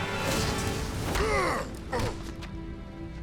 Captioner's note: groaning